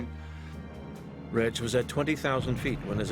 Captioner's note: voiceover